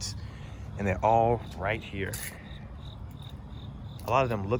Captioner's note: nature sounds